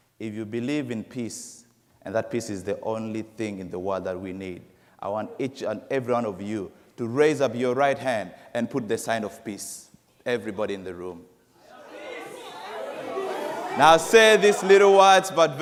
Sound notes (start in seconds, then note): 11.6 crowd chattering